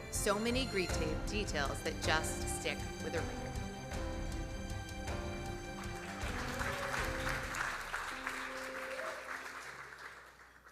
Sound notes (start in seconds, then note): 5.3 gentle music; 5.6 audience applauding